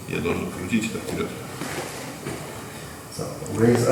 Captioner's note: speaking in a foreign language